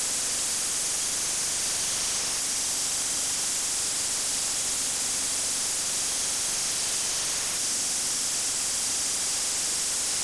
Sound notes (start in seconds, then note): none